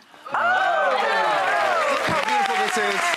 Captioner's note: cheering and applause